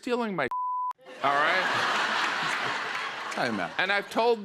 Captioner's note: laughter